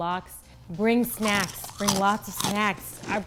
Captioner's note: potato chips crunching